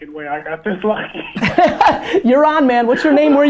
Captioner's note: laughs